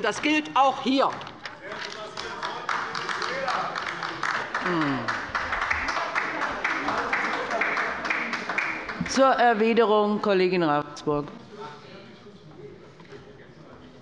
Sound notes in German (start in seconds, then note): 1.8 Beifall bei der LINKEN - Zurufe von der CDU